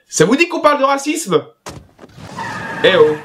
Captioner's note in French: Bruit de voiture qui démarre à toute vitesse